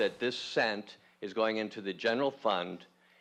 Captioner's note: voiceover